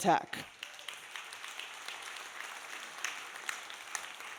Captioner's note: audience applauding